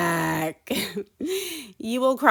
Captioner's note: chuckles